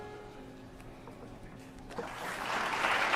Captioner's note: applause